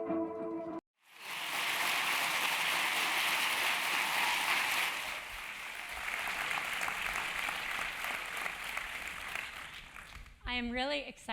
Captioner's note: applause